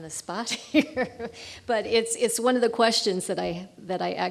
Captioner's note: laughing